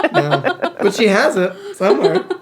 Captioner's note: laughing